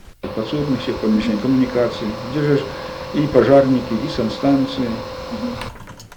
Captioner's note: man's speech sounds